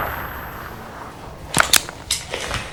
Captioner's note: safety clicks